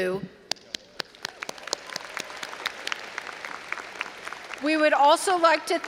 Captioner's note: all applauding and cheering